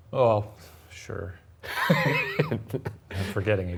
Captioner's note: chuckles